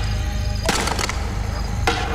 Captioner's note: Pounding